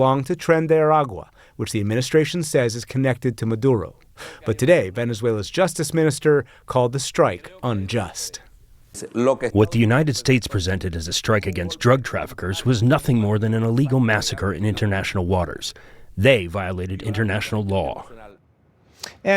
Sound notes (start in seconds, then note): 9.9 through translator